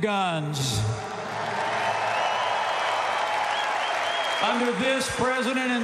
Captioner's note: applause